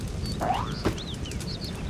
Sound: jump sound

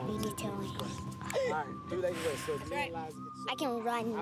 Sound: exhales

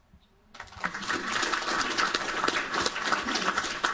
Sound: applauding

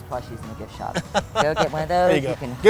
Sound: laughing

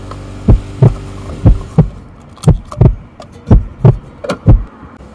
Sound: heart beating fast

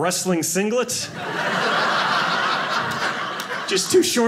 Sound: audience laughing

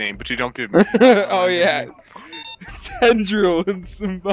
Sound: laughs

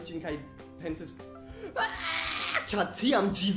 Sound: pitiable childlike wail

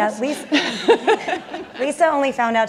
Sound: laughing

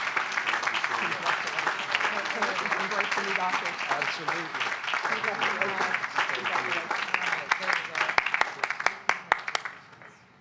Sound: applause

